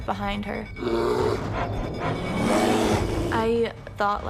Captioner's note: bear growling